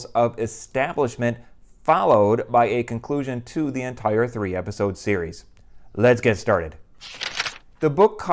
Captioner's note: page turning